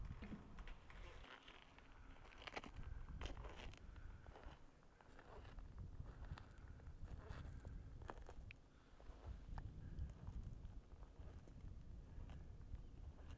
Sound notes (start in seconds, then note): 1.5 footsteps pattering; 9.6 wind whistling